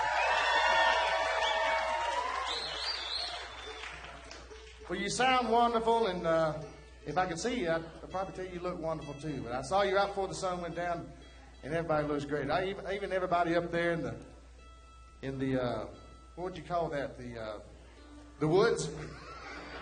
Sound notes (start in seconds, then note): 2.0 audience applauds; 3.7 cheering